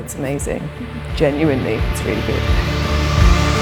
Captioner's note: laughs